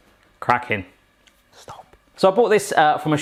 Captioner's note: whispering